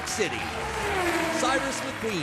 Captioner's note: engine revs